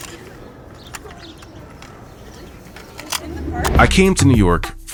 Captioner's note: plastic clanking